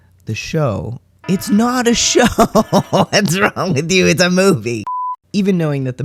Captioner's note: alarm blaring